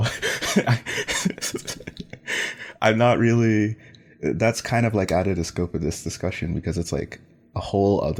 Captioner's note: laughs